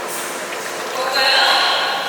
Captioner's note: dripping